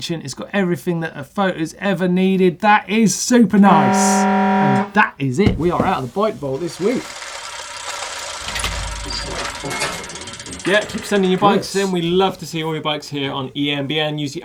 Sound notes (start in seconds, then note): 3.7 alarm; 7.5 gears grinding